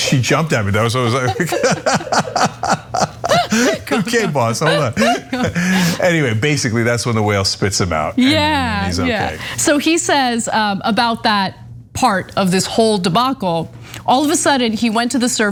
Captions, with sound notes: that was why I was like. [LAUGH] Good kick, boss, hold on. Anyway, basically that's when the whale spits him out and he is okay. >> Yeah, so he says about that part of this whole debacle. All of a sudden he went to